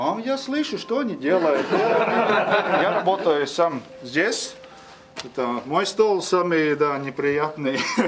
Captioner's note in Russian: смеется